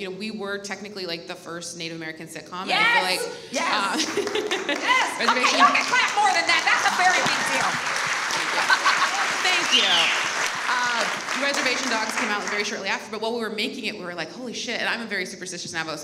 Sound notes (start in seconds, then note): 3.7 laughs; 8.2 audience applauds